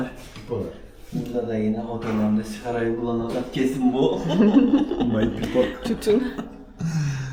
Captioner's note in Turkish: kahkaha